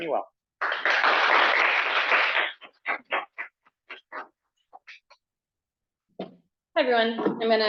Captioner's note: applause